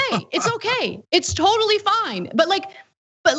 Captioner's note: laugh